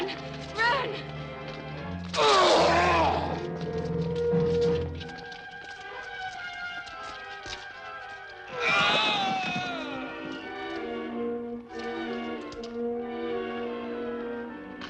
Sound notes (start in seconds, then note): 2.3 man groans; 8.5 men groaning